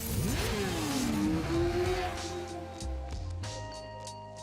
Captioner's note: bike engines roars